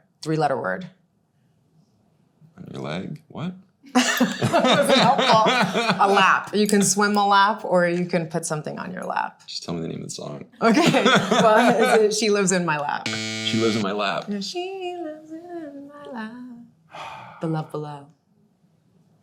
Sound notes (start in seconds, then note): 3.9 both laughing